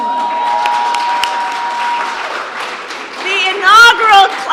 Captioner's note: applause